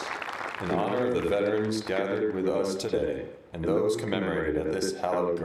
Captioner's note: applause